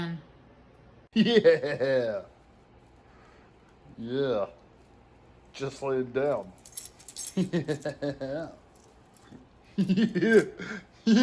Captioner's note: Ella laughs and giggles